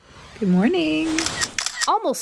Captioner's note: camera clicks